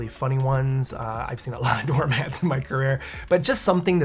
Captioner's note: laughs